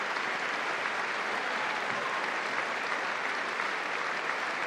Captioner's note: applause